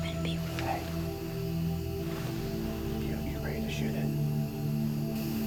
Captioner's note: whispering